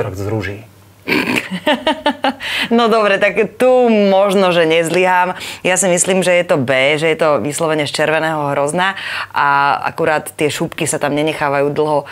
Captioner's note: laughs